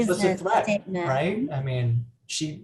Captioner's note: chattering